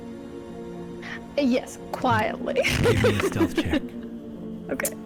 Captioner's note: laughs